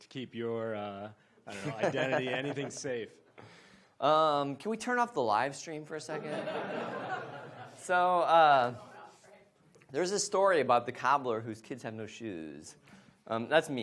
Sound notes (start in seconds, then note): 6.2 audience laughs